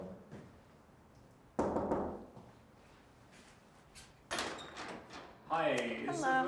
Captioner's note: Randy knocking door